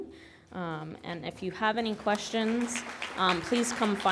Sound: audience applauding

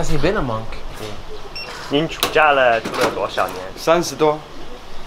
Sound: speaking Chinese

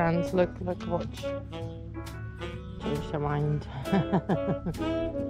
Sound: laughs

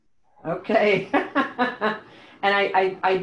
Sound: laughs

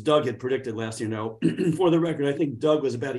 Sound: clears throat

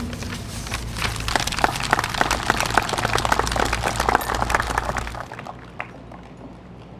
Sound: applause

